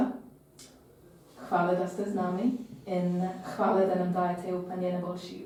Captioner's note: in Slovene